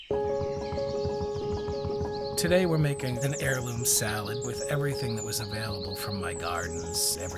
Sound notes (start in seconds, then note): 0.0 birds chirping; 0.0 bright music